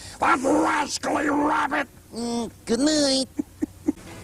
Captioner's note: mimics Looney Tunes music; mimicking Elmer Fudd; mimicking Bugs Bunny